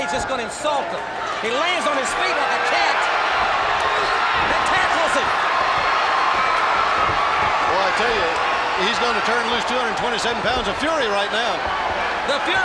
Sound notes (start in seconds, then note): 3.4 blows thudding; 3.4 crowd cheering; 6.4 body thudding